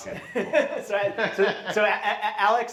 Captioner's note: laughs